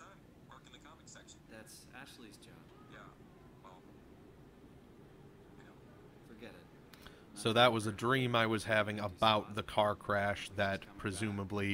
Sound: ingame phone conversation

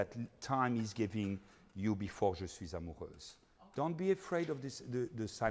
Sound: speaking in foreign language

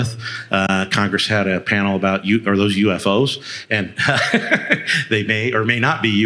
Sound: laughing

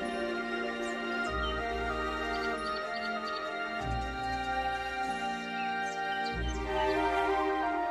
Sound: birds can be heard chirping in the backgroundas the music continues

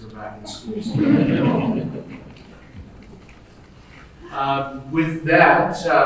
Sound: group laughing

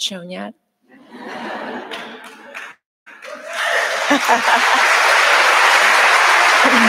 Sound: audience applauding; audience laughing

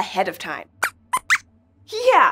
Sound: squeaks squeaks

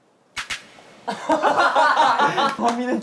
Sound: laughing

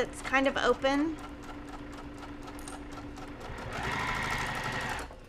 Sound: machine whirring

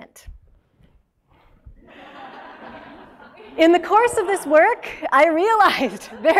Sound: laugh; laugh

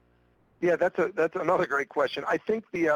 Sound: voiceover

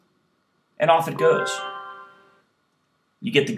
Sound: chime sounds

